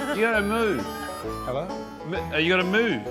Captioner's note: none